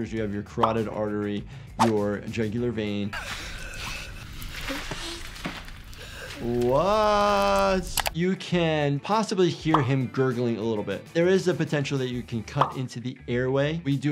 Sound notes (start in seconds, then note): 3.2 victim gasps and gurgles